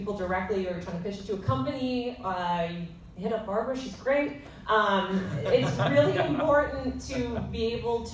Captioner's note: laughter